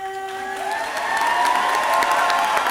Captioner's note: audience cheering; audience clapping